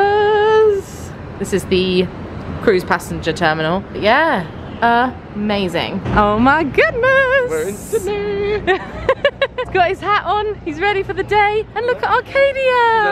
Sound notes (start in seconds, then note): 7.5 laughing